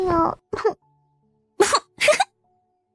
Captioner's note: chuckles mockingly